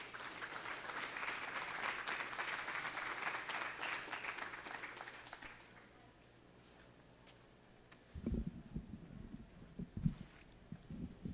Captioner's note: cheering